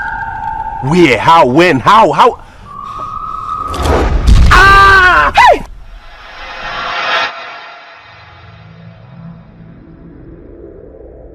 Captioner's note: screaming